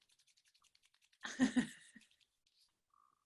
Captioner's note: laughing